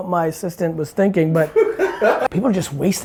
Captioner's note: laughs